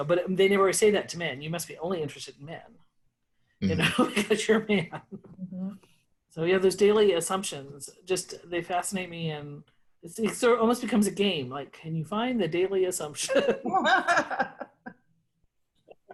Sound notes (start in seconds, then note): 3.8 laughs; 13.3 all laughing